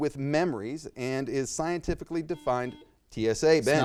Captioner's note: buzzer beeps